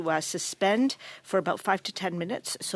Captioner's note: speaking French